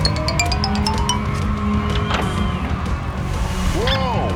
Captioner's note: ringing